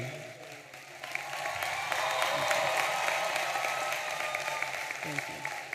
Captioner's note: audience applauding and cheering